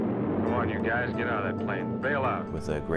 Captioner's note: man Over Radio